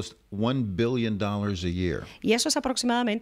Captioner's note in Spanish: Hablando ingl\s